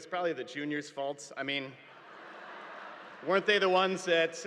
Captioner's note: audience laughing